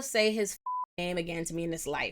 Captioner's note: beep